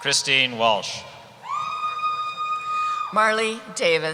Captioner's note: cheering